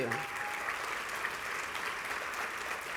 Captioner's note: applause